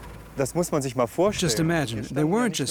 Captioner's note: speaking German